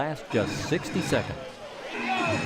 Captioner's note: buzzer